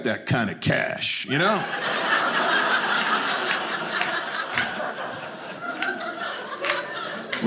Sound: audience laughing

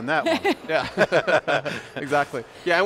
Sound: laughing

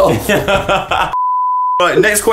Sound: beep

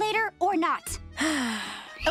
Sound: sighing

